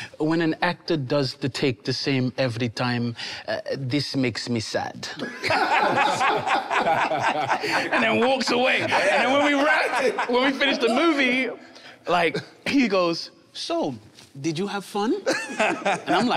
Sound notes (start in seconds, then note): 5.2 everyone laughing amusingly